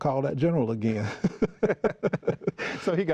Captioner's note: laughing